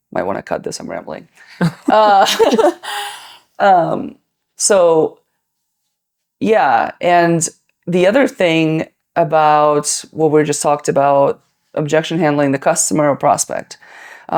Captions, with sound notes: might wanna cut this, I'm rambling. (both laughing) So, yeah. And the other thing about what we just talked about, objection handling, the customer or prospect.